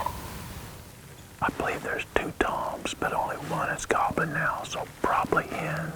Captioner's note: whispering